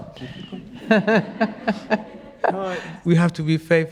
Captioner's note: laughing